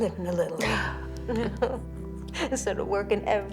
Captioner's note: both chuckle